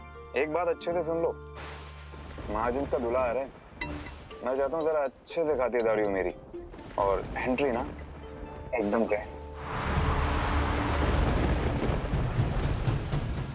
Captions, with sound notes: Listen to this carefully. The son-in-law of the Mahajans is coming. I should treated very nicely. And the entry will be grand. (tires screeching)